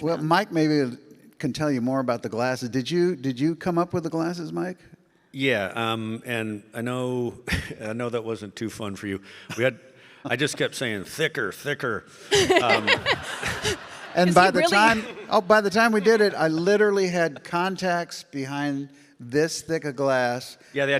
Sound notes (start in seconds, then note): 12.3 laughs; 12.3 audience laughing